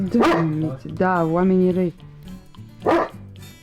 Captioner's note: in Romanian